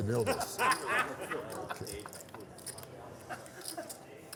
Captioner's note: laughter